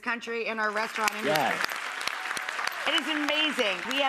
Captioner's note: audience applauding